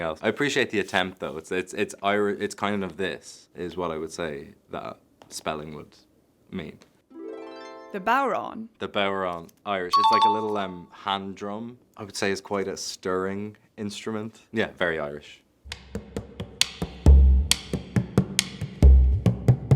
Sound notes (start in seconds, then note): 7.2 chiming music; 9.9 chime dings